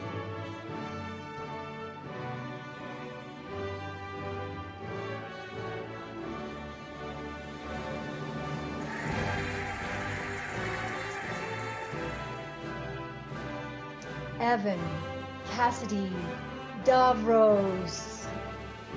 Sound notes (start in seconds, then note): 0.1 cheerful music; 8.2 cheering and applauding